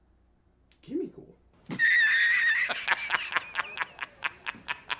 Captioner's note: laughter continues; wheezing laugh